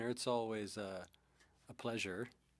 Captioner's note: speaking French